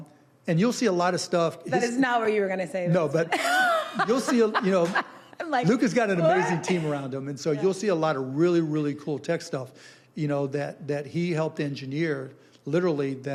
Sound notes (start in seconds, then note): 3.2 laughing